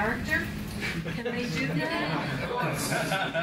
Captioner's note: multiple laughs